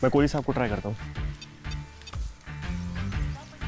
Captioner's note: Beeps on mobile